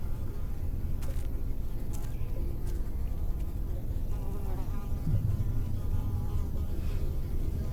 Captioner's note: flies buzzing